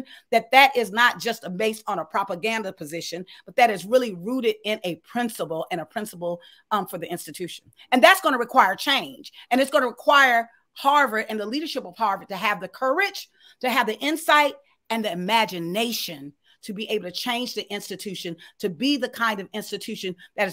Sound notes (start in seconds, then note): none